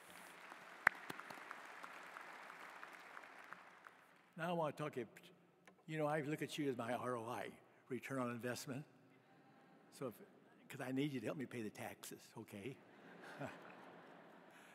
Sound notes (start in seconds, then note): 0.0 applause